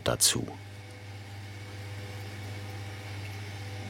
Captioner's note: quiet machine whirring